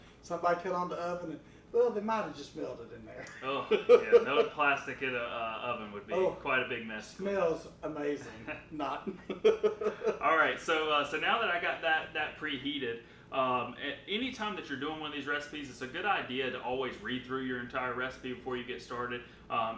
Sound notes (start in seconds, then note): 8.2 laughing